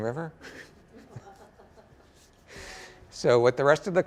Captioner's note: laughter